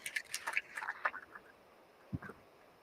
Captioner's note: applause